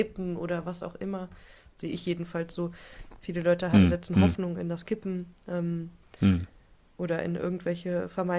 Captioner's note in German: räuspern